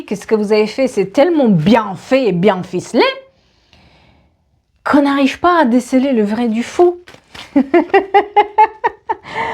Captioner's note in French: rires